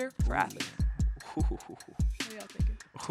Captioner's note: chuckles